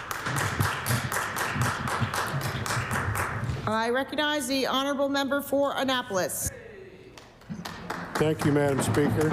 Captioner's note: applause